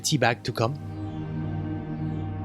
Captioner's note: voiceover